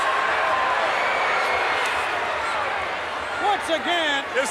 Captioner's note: crowd boos